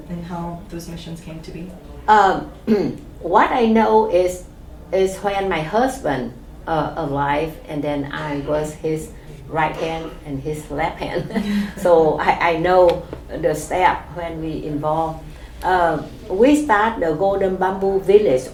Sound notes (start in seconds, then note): 1.9 clears throat; 11.0 chuckle